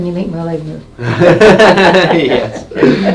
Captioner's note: laughs